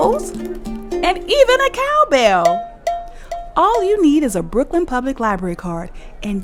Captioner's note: violin sound; cow bell